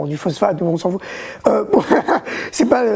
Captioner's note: laughs